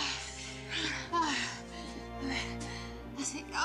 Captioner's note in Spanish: gemidos